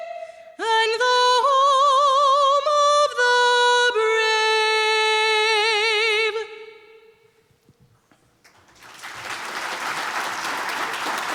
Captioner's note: applause